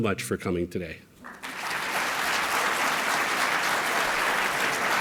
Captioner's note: applause